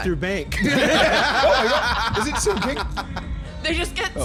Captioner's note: laughs